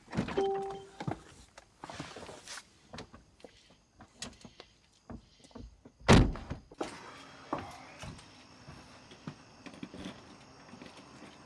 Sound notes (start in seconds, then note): 6.1 door shutting